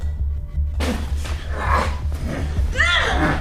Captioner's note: man groaning